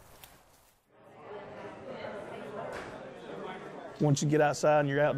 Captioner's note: chattering